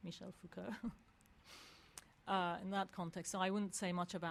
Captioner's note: laugh